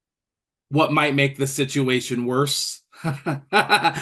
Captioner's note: laughs